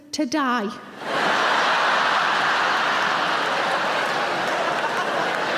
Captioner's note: audience laughing